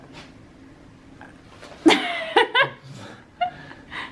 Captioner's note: laughs